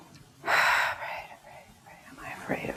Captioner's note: sighs